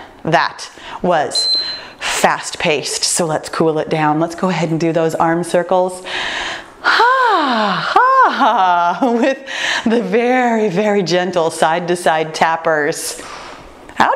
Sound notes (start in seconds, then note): 1.3 timer beeping; 6.8 sighs